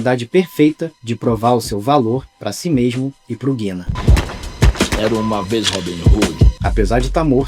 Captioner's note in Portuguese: Tiros